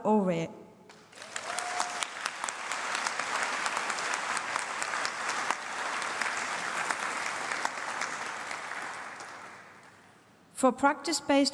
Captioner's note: applause